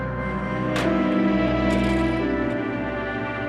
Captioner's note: menutup gagang telepon, koin berdenting